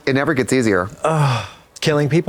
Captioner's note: Katya sighs